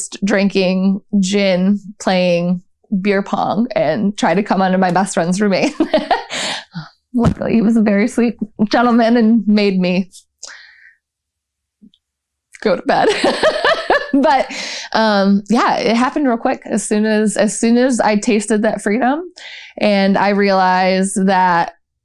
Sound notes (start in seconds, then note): 5.6 laughter; 13.0 laughter